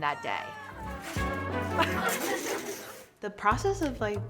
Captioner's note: group of people laugh; smooth music